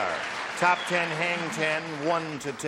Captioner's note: applause